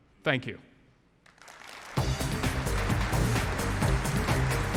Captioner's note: applause